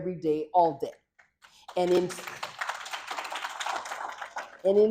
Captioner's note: applause